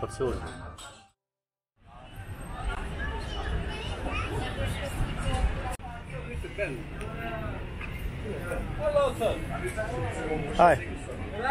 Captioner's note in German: Straßenlärm, Stimmen